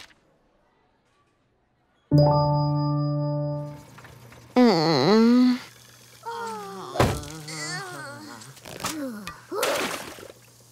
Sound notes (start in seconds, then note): 4.3 groaning